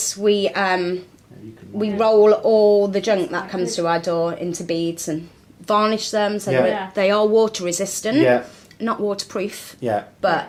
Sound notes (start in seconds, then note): none